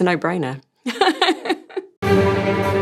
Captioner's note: laughs; dramatic music